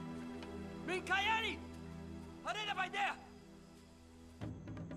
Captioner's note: shouting continues; drums beating